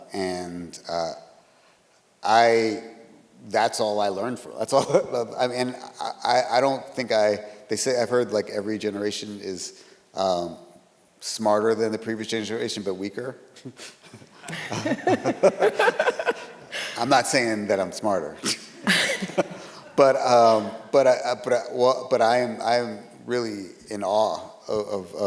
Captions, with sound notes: and that's all I learned from... I mean, I don't think, they say I've heard like every generation is smarter than the previous generation, but weaker. (all laughing) I'm not saying that I'm smarter, but I am really in awe of my parents, you know,